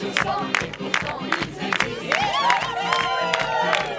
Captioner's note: clapping; cheering